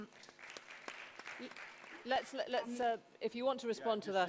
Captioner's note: small applause